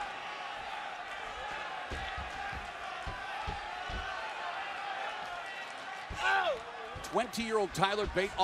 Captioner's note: crowd chatter